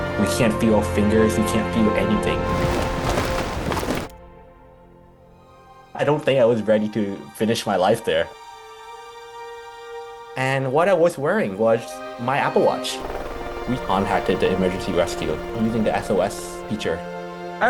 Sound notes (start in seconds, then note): 2.2 snow splattering; 2.2 wind howling